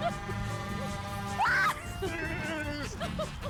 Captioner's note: laughing